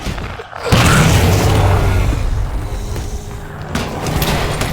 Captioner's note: explosion